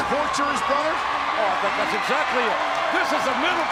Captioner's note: spectators cheering